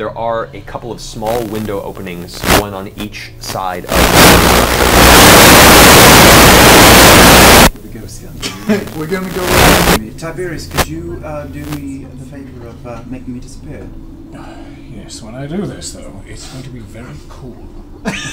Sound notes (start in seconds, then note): 5.5 static